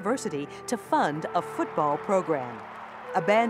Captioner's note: spectators cheering